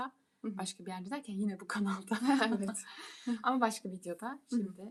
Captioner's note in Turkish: kahkaha